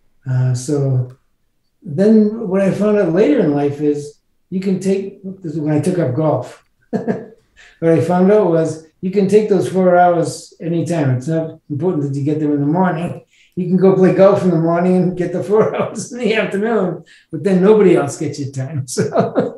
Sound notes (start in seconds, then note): 6.9 laughs